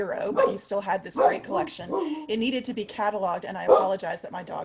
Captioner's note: dog barks